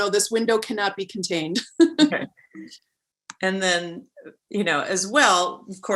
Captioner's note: chuckling